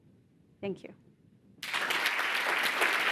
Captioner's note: applause